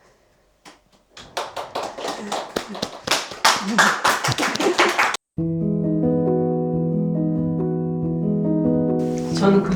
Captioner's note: applause